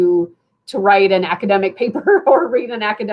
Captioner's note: laughter